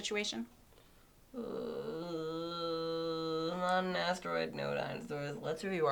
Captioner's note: groan